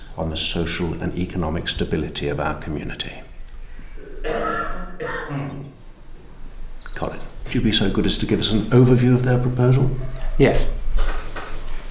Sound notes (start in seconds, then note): 4.0 male cough